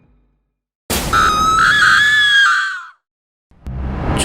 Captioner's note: horror Scream